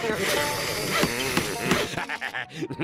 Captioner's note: pounding, sawing